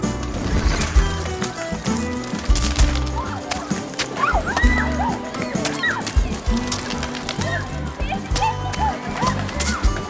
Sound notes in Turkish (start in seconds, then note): 2.2 bağirişmalar; 2.2 kuş sesleri̇